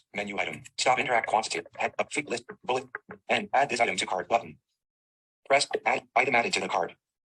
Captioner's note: screen reader speaking very fast